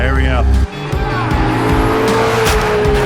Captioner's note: engine roaring; tires screeching; bags crunching